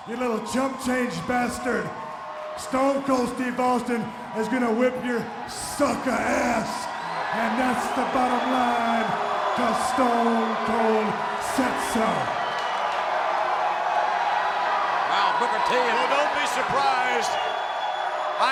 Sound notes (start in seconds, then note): 12.5 crowd clamoring